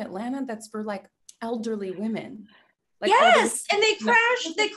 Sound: none

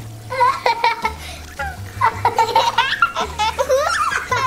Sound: both laughing

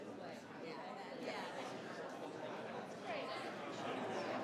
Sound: group chattering

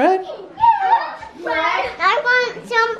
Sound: shrieks

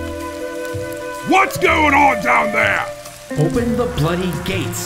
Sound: yelling

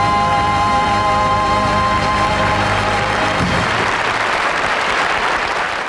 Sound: audience applauding

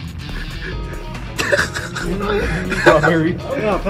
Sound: laughing

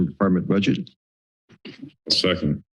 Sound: silence

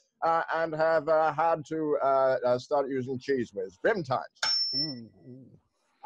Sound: tuning fork dings

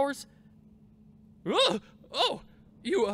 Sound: startled yell

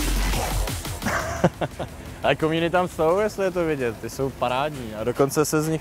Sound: laughs

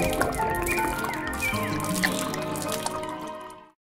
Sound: water hitting floor; pouring from bottle; birds chirping

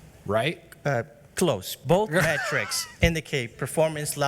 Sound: laughs

